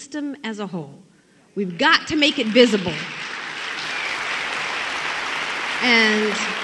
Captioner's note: applause